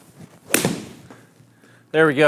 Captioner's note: golf club clapping